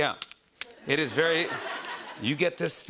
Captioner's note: laughter